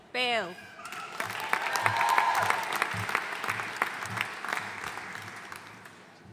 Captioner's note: audience cheering and applauding